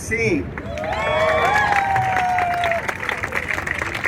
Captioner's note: crowd cheers